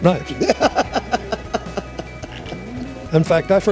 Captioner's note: laughs